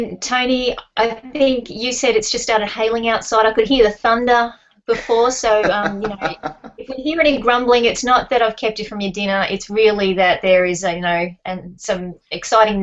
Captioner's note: small chatter about weather